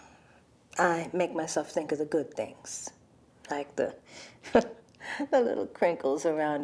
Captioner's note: laughs